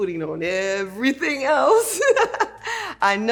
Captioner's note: laughs